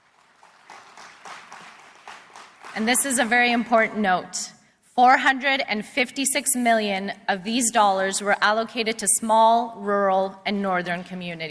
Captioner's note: applause